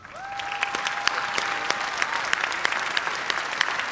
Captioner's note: cheers and applause